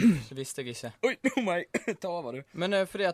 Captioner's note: coughs